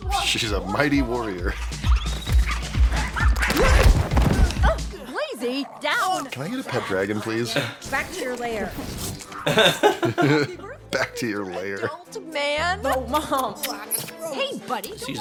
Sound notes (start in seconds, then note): 1.4 yipping